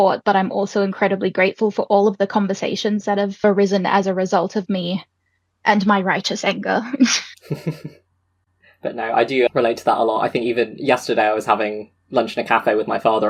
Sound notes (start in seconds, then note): 7.0 laughs